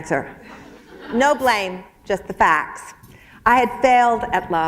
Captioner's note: chuckle